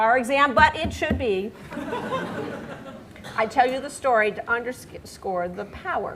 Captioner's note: laughter